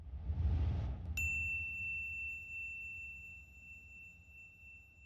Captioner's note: bell dinging